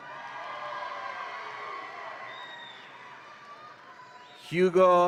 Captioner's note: audience applauds and cheers